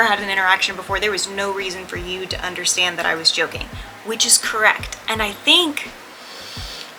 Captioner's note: deep breath